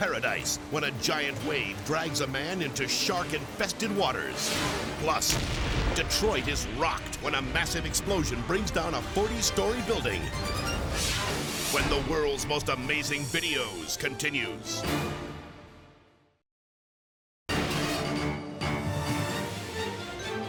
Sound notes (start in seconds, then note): 10.8 graphics whoosh; 17.6 upbeat music